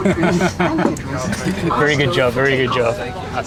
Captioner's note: laughing